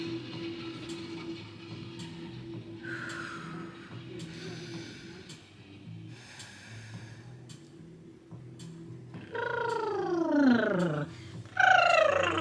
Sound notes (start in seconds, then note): 0.3 pensive music; 2.9 breathing deeply; 9.4 trilling